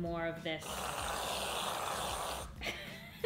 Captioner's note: whooshing; laughing